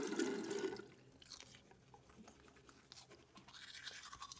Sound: brushing

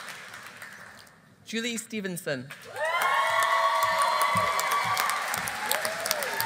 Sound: audience applauding

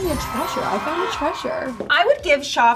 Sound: twinkling and children cheering

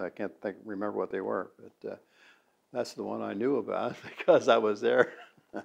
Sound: laughs

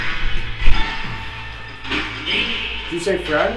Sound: radio noise hissing continues

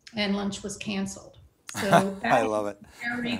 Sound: laughs

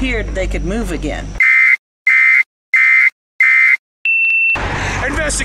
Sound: emergency warning siren

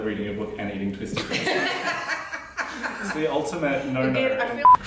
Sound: laughter

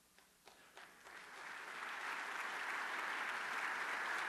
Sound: applause

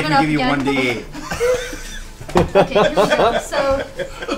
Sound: all laugh

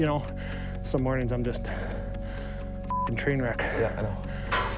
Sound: beep

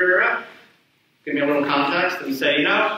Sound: blathers

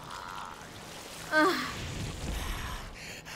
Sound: sigh

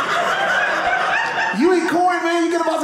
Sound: audience laughing

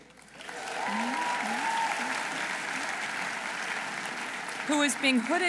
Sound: audience applauding; audience cheering

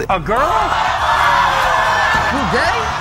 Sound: audience screaming

